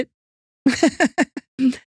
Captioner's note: laughing